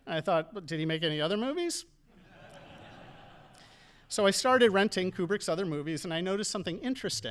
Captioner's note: audience laughing